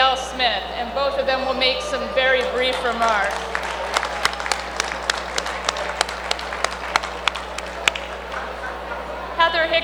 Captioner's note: applause